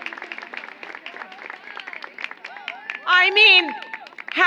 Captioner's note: applause